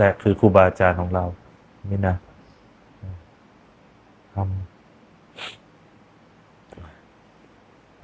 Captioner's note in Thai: เสียงสูดหายใจ